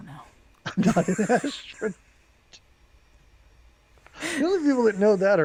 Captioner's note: both laughing